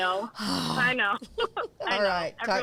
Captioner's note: sighs